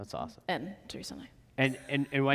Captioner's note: laughs